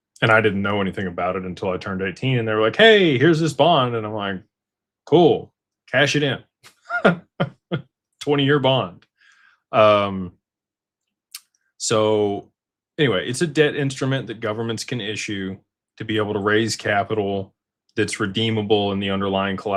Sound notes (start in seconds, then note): 6.7 laughter